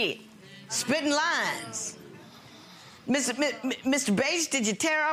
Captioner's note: audience gasping